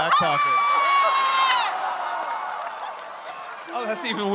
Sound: crowd cheering

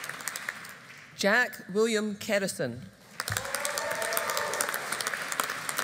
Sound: audience applauding

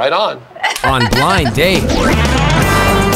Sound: laughing

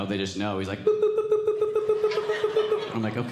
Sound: beeping

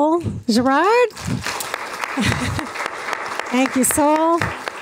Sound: applause

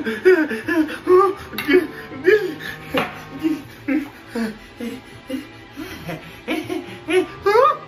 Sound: sounds of desperate panic; momentary happy sounds replaced by crying

